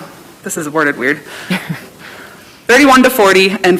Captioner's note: chuckling